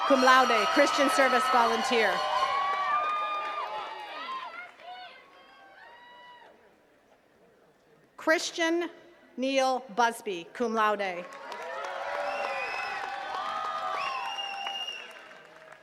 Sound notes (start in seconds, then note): 2.7 attendees cheering; 11.2 attendees cheering and clapping